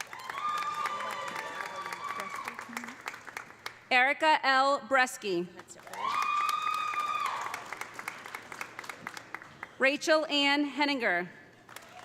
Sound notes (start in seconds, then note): 0.0 audience cheering; 0.0 audience applauding; 5.6 audience applauding; 5.9 audience cheering; 11.6 audience applauding; 11.7 audience cheering